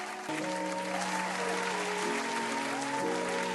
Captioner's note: applause